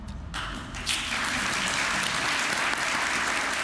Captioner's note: applause